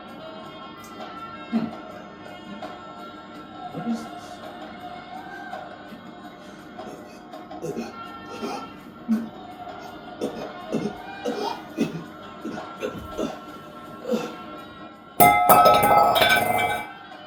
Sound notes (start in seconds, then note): 6.8 choking, gasping; 15.2 clang